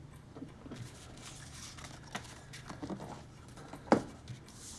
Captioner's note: envelope crinkling